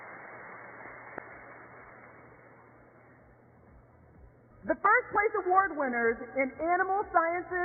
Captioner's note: applause